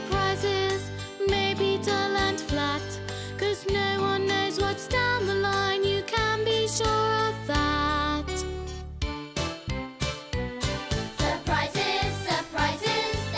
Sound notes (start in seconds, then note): none